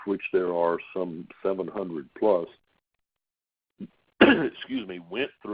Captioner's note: coughing